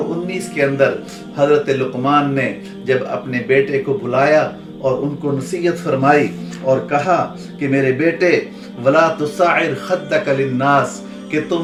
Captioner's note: Arabic